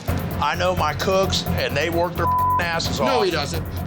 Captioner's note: beep